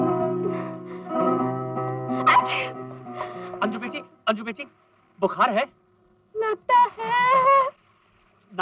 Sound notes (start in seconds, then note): 2.2 sneezing